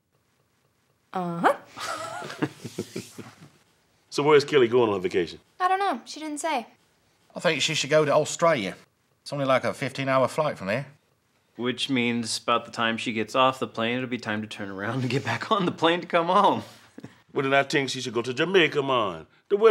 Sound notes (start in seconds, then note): 1.8 laughter